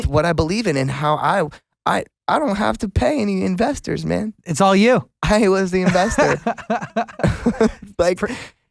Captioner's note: laughs